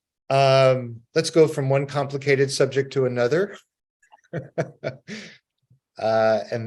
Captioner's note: laughs